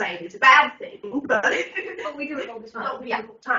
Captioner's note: everyone laughs